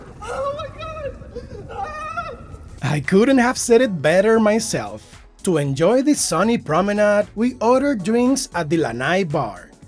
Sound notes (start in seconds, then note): 1.6 panicked screaming